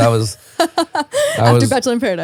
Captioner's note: laughing